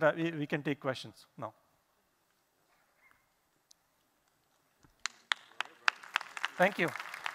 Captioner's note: applause